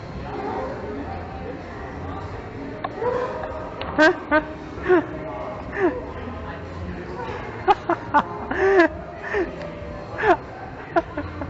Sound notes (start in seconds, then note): 1.8 laughing climber as well